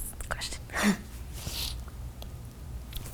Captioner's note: sniffs